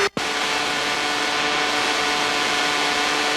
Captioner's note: plane noise